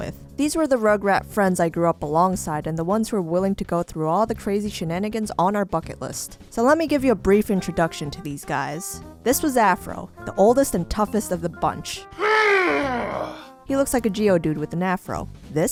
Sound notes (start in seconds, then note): 12.2 scary-ish grunt